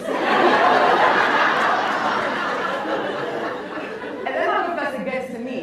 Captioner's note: laughs